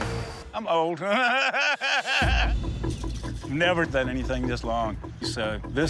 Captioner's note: laughs